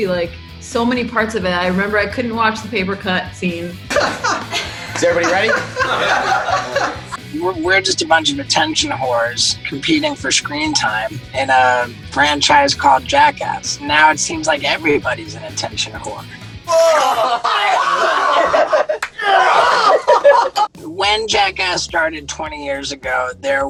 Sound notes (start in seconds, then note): 3.9 man laughing in the background; 16.4 snorting; 16.6 all laughing